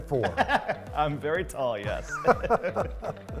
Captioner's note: bot laughing; laughing